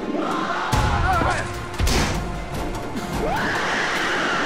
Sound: demon roars

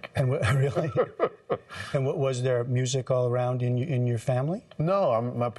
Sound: laughter

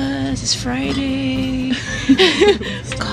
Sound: laughs

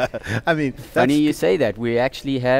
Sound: laughs

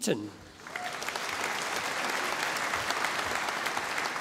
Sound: audience applauding

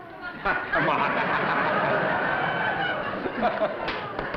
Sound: laughter

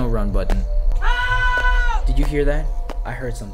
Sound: MJ scream

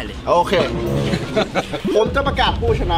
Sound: chuckles

